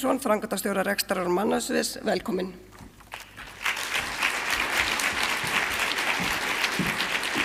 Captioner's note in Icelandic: fagnaðarlæti